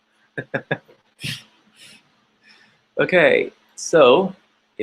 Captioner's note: laughing